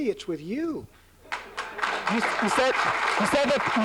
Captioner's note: applause